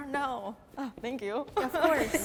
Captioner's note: laughs